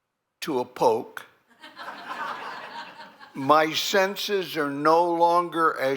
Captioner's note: laughter